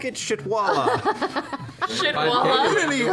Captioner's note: laughs